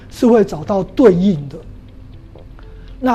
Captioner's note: chinese words